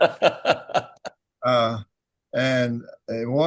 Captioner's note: laughing